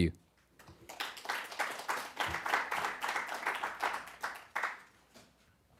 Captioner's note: applause